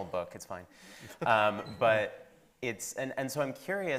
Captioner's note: laughing